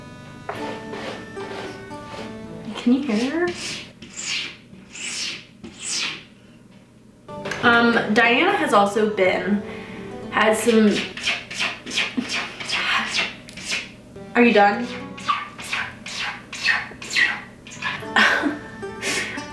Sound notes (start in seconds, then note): 2.7 cat scraping the litter box; 10.5 more scratching; 13.4 sighs; 14.4 scratching continues